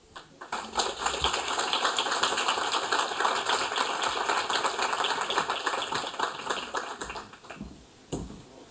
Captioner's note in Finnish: Aplodeja